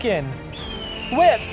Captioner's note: falcon screech